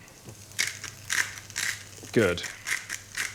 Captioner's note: pepper shaker rattling